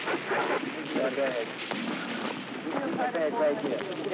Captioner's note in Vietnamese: Tiếng trao đổi